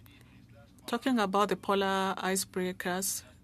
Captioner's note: speaking French